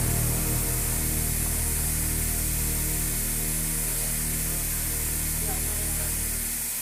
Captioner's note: car hisses to a stop